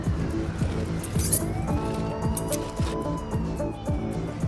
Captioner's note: keys jingling